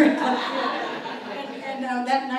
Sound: audience laughs

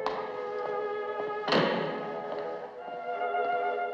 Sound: door Closes

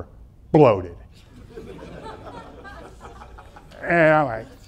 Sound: audience laughing

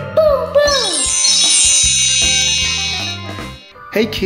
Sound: high-pitched chimes; upbeat music

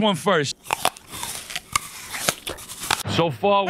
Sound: apple crunching

